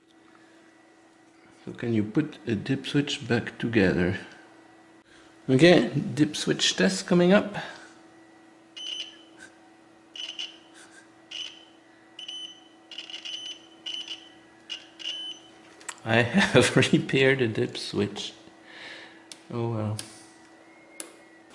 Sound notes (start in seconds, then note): 10.1 instrument beeps; 14.9 laughing